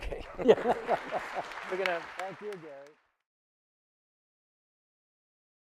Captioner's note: audience applauding